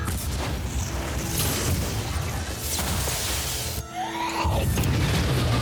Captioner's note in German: mehrere Explosionen